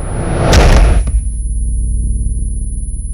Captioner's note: Thud